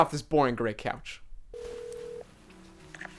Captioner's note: someone picks up; phone ringing